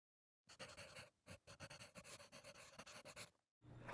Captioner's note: pencil on paper scribbling